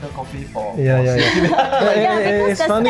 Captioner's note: laughs